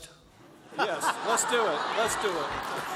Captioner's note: laughter